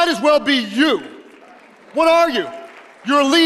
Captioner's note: audience applauding